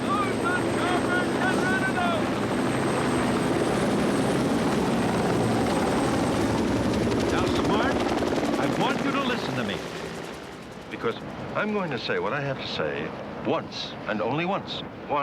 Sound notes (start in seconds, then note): 3.4 helicopters whir